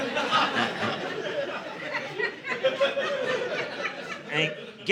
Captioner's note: audience laughing